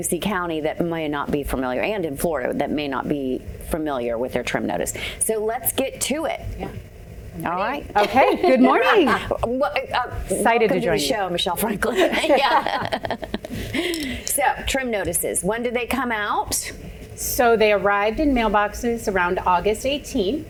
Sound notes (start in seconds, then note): 8.0 laughing; 11.9 laughing